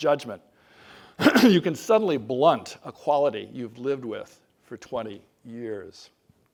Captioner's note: cough